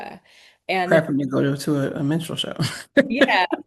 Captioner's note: laughs